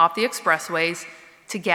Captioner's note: none